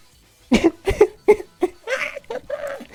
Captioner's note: laughs